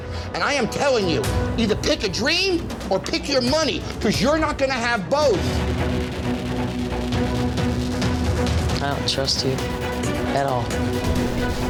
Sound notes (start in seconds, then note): none